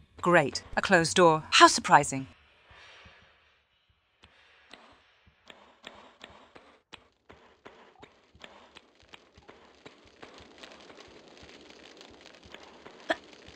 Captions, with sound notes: Great, a closed door, how surprising. *sounds of fire*